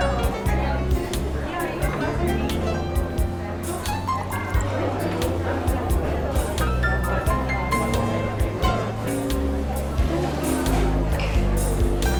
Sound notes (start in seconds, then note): 0.1 bluesy piano music; 4.1 diner sounds